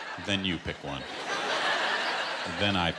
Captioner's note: laughter